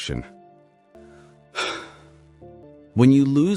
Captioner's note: sigh